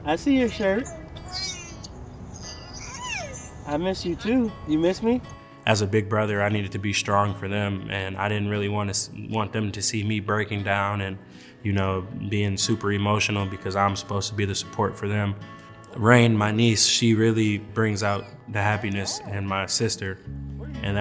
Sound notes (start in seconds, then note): 2.4 babbling